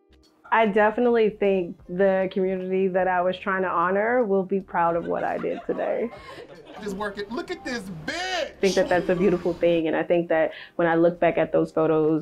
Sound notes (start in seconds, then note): 4.8 laughing